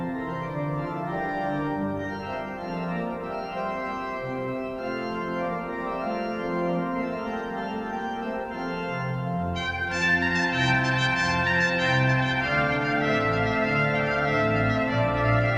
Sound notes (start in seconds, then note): none